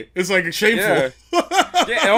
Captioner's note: laughs